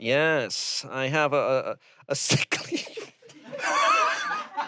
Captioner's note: laughs; everyone laughs